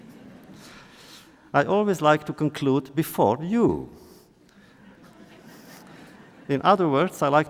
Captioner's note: laughter